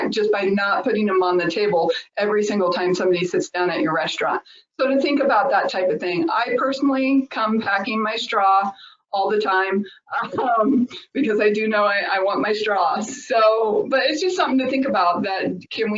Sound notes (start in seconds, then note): 10.2 laughs